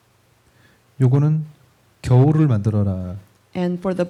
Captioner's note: speaking korean